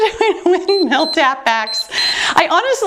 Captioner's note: timer beeps